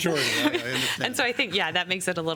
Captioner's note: laughter